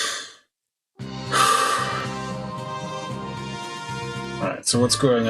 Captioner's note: sighs